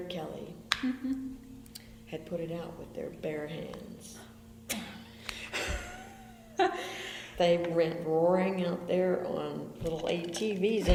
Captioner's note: BOTH laugh